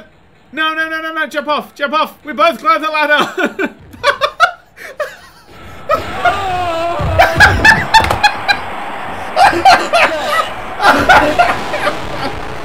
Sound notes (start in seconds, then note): 3.2 laugh; 4.6 chuckle; 6.5 uproarious hyena laughter